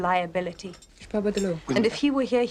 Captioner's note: speaking french